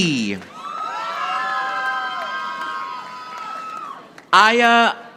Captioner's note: audience applauding